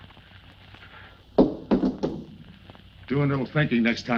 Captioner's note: gun thuds